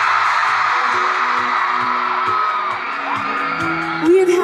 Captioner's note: loud crowd cheering